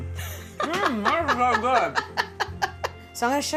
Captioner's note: laughing